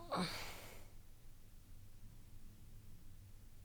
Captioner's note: groaning